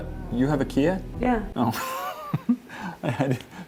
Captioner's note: laughs